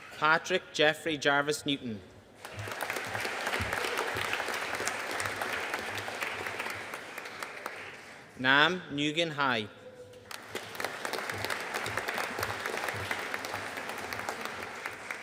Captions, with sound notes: Patrick Geoffrey Jarvis Newton. (AUDIENCE APPLAUDING) Nam Nguyen Hai. (AUDIENCE APPLAUDING)